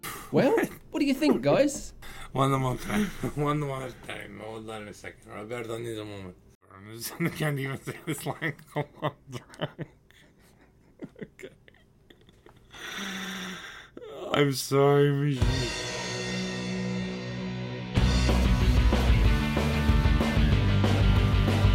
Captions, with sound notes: Well, what do you think guys? (Hysterical laughter)